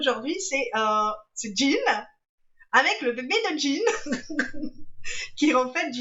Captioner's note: laughs